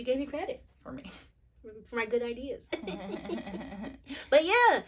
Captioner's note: laughter C: Mocking laugh